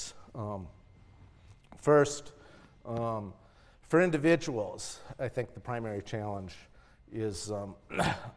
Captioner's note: cough